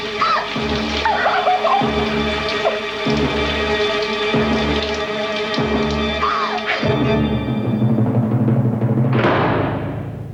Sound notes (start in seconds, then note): 1.1 crying; 9.0 gate slam